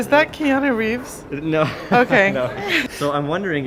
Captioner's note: laughing